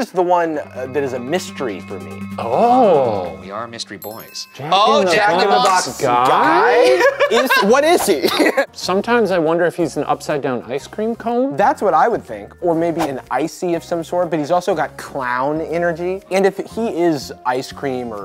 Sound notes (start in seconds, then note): 6.5 laughing; 6.6 laughs